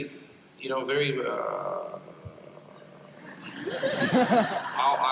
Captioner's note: impersonating obama